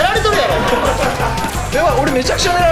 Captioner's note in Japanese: 笑い声